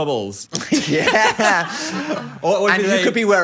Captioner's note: everyone laughs